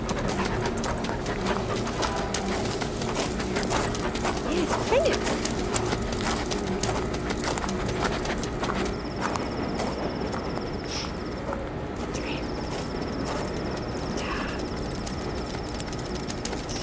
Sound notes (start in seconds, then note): 0.0 dog panting; 9.0 cricket chirping